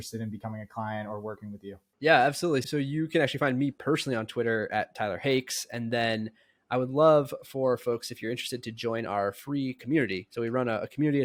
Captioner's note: speaking